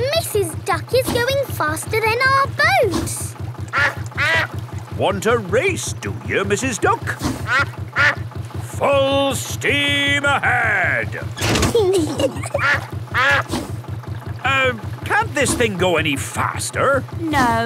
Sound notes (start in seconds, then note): 0.0 quacking; 3.7 quacks; 7.3 quacks; 11.2 kids giggling; 11.4 level clangs; 13.0 quacks